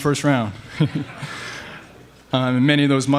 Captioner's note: laughing